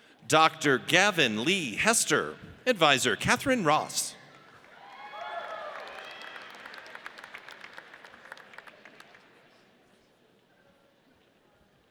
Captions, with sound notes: Dr. Gavin Lee Hester. Advisor, Kathryn Ross. (audience cheers)